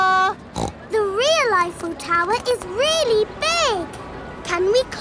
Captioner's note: snorts